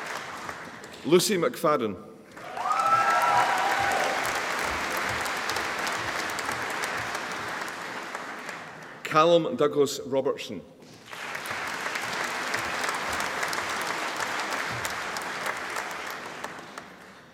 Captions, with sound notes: Lucy McFadyen (AUDIENCE APPLAUDING) Callum Douglas Robertson (AUDIENCE APPLAUDING)